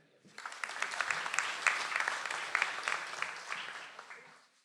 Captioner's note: audience applauds